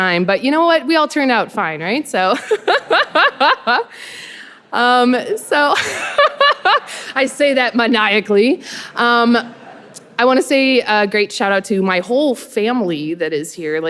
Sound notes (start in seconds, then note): 2.4 laughing; 5.7 laughs